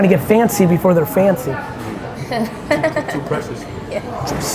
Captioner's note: laughs